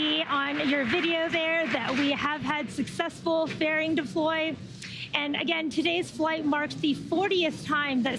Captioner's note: cheering and applause